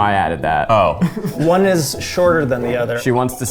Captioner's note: laughs